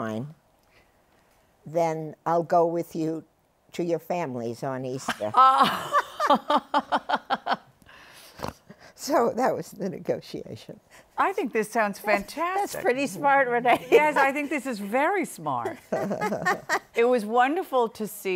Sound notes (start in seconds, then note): 5.3 laughter; 15.6 laughter